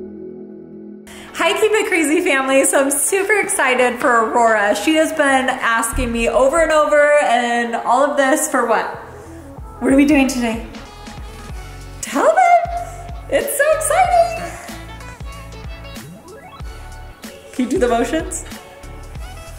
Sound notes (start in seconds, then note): 15.2 giggles